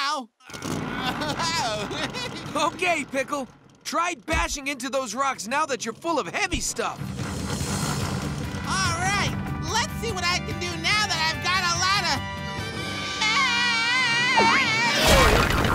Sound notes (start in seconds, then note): 0.4 laughing